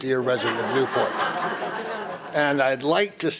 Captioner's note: audience laughing